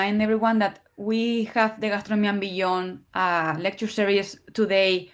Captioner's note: speaking in foreign language